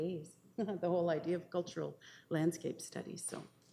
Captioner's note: chuckles